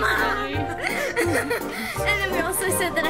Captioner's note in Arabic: يضحك